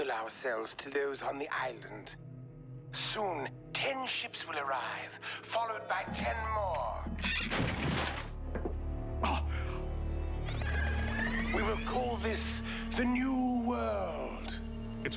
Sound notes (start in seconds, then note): 9.2 gasps